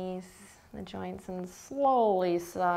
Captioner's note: none